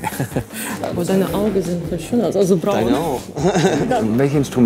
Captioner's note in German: lachen